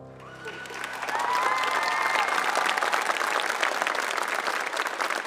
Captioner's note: audience applauding